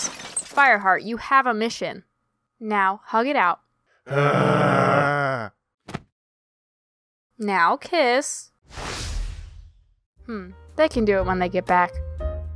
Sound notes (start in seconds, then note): 8.7 woosh